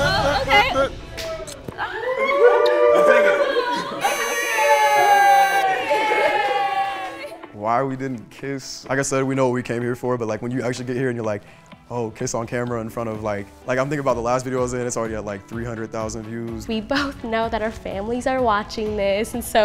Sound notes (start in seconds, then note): 1.8 group cheers; 4.0 party horn blows